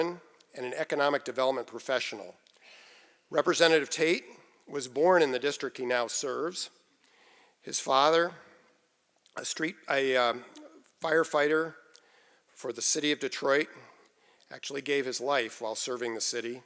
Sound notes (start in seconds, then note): none